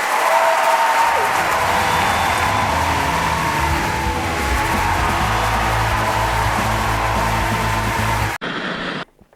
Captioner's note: applause